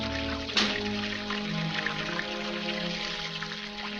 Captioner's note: door closes